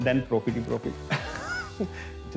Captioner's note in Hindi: हंसने की आवाज़